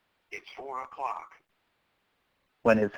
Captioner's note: voiceover